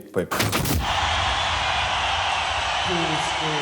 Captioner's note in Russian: Рёв и свист толпы